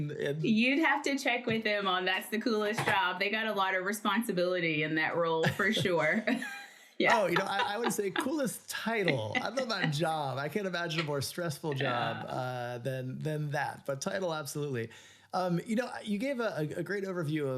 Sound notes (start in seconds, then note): 7.0 laughs